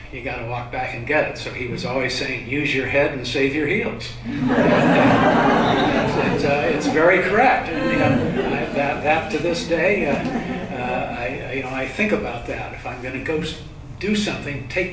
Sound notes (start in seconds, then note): 4.3 laughter